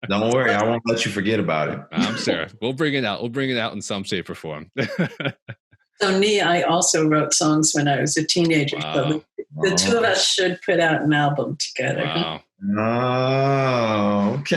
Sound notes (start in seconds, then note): 5.6 chuckles